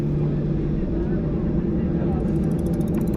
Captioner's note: plane sound